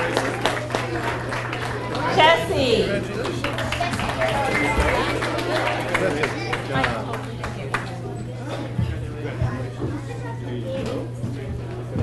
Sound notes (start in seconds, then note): 0.9 audience applauds; 4.7 audience applauds; 7.7 people chattering